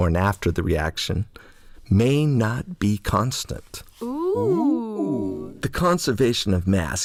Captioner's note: OOO sound